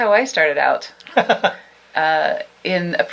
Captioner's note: laughs